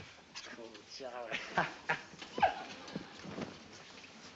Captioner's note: laughs